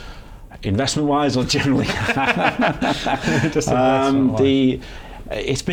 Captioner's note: laughter